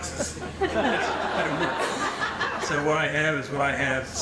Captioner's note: audience laughing